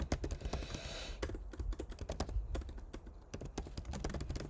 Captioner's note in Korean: 콧방귀